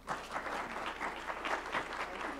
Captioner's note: applause